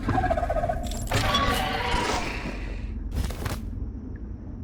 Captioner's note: creature screeching